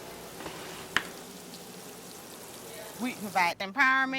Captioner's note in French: bruits de cuisine